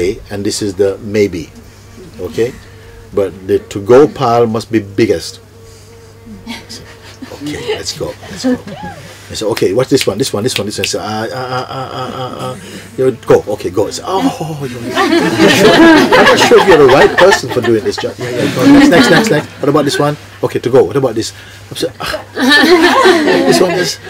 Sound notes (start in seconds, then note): 9.9 snaps fingers; 14.8 laughter